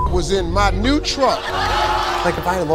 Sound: audience laughs

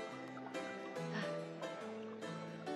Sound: sighs

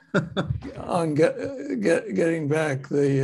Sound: laughs

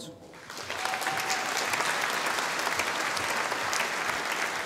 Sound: audience applauding

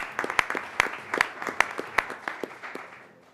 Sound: applause

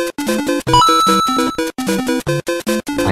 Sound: Coin collecting sound from Super Mario Bros

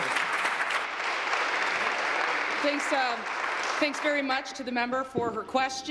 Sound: applause

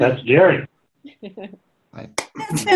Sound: laughing

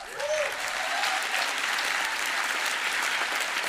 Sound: applause

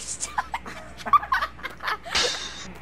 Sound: both boys laugh X'D

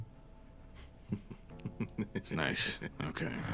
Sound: chuckling

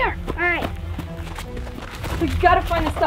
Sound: footsteps

